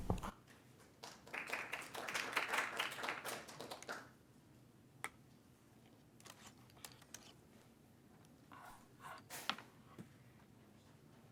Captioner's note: applause